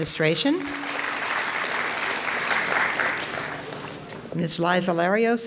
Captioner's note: audience applauds